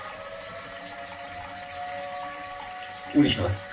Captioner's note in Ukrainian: звук повітряної тривоги